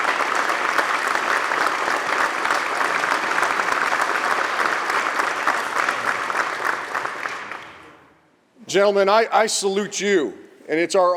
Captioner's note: applause